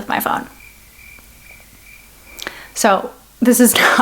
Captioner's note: crickets chirping